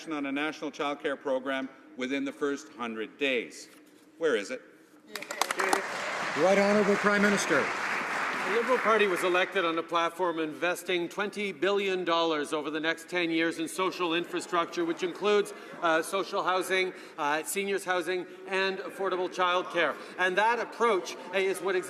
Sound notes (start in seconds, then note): 8.1 some Applause